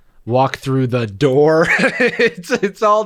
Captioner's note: laughs